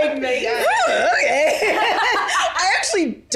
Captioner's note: laughs